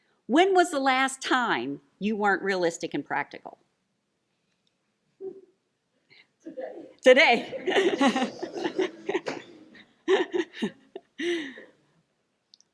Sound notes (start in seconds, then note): 10.1 laughs